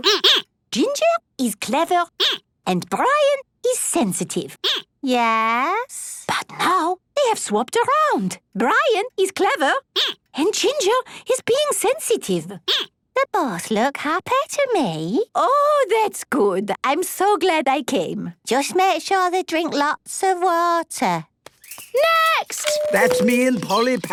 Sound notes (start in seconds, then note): 5.7 whispering; 12.0 squeaking